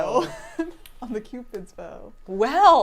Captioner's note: laughs